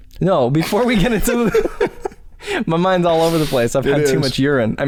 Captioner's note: chuckles